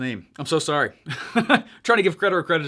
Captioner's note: laughs